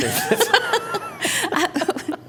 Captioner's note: laughing